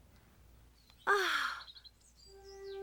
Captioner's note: gasps